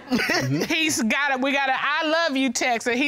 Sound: chuckles

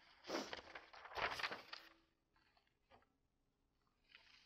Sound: paper rustles

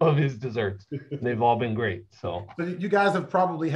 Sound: laughter

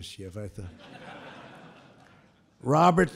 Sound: laughter

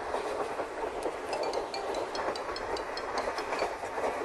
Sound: phone Ringing

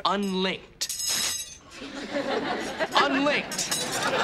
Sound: rings clanking; audience laughing

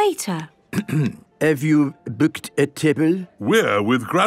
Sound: clears throat

